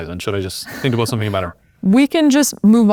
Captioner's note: laughs